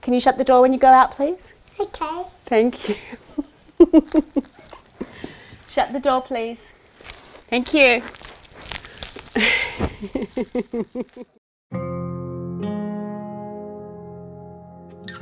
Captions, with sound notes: - Can you shut the door when you go out please? - Okay. - Thank you. (giggles) Shut the door, please, thank you. (giggles) (hopeful music)